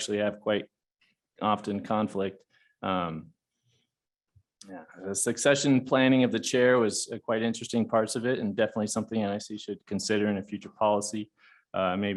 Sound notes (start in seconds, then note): none